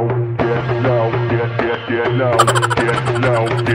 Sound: strangers Clapping

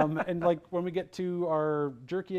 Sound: laughs

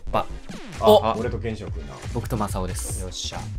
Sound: ah" and "Oh

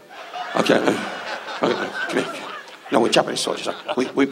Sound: audience laughs

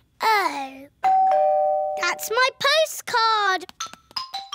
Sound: doorbell rings

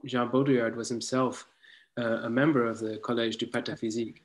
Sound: in foreign language

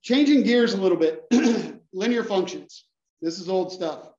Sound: cough

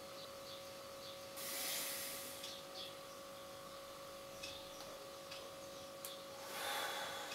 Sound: distant birds chirping; hunter sighing

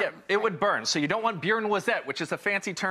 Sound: foreign language

